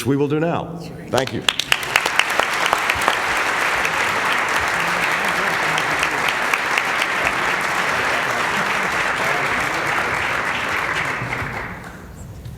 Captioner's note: applause